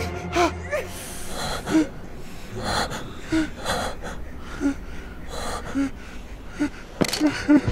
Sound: panting

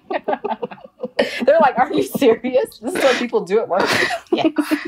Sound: laughs

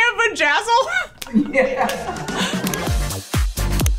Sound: laughs; upbeat music

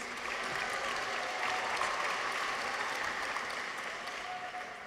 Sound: audience applauds

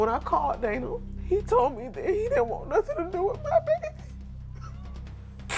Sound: cries

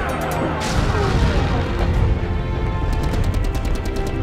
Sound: explosions boom

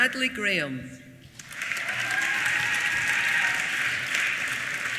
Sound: applause

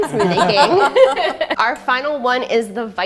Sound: laughs

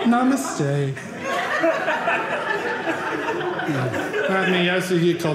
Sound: audience laughing

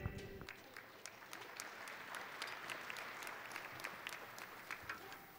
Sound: audience applauding

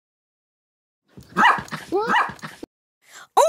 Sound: silence; Doofie barks

